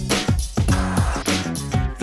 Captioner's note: TV static